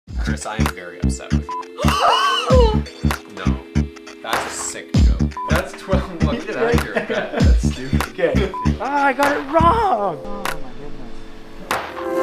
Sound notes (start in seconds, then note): 1.8 woman gasps loudly; 6.0 laughs; 11.7 upbeat music